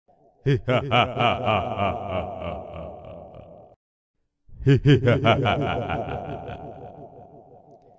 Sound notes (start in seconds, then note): 0.4 evil laugh; 4.6 evil laughter